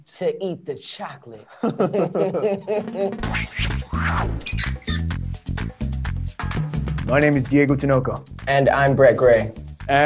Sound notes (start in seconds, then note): 1.5 both laugh; 2.8 upbeat music